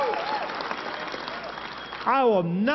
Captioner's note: applause